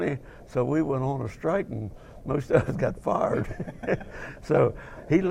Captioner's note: laughing